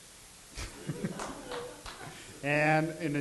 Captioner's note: laughs